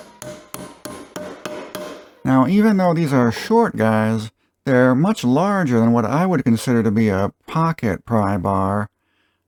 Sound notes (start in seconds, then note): 0.2 lid tapping sound